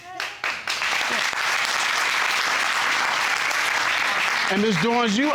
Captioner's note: audience clapping